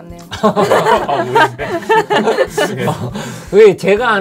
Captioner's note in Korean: 웃음